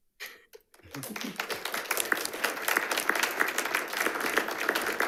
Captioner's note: audience applauds